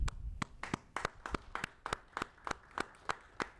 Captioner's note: applauding